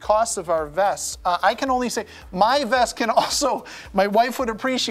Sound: chuckling

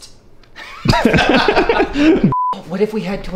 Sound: everyone laughing

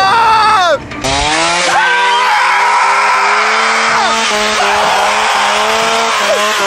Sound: chainsaw revving; screaming

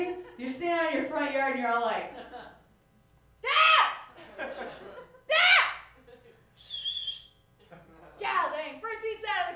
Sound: whistles

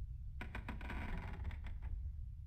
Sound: wood creaking

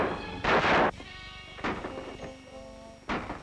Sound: knocking

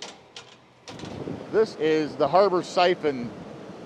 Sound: doors clicking

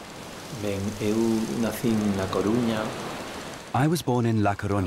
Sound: he speaks Spanish

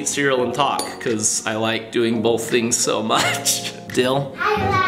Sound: laughs

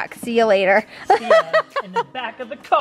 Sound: laughs

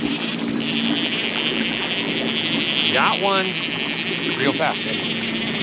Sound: reel spinning

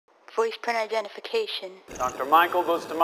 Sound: automated voice

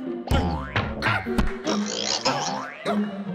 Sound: excited yelping

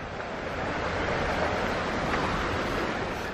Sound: sound of rushing water

